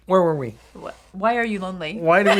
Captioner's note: laughs